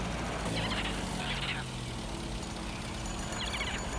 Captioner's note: birds cawing